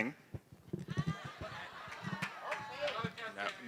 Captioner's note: laughter